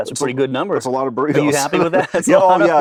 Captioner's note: chuckles